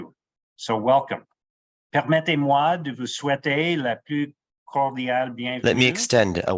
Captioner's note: speaking French